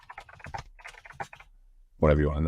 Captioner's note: keyboard keys clicking